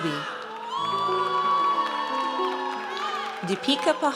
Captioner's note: audience cheers